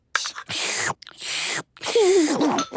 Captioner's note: slurping; giggles